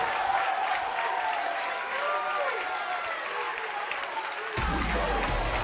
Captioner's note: cheers and applause